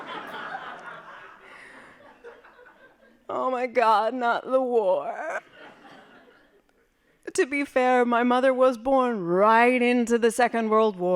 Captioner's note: laughing; laughing